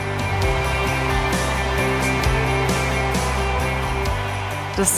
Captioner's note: applause